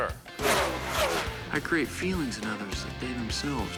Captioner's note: revving